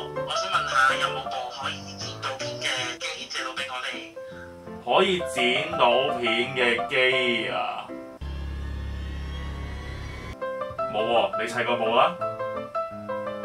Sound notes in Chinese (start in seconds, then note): 8.2 恐怖聲音